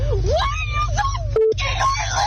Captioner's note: beep